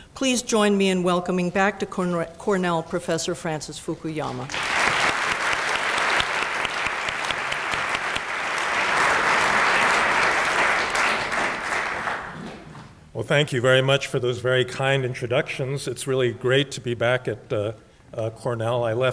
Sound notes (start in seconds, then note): 4.4 applause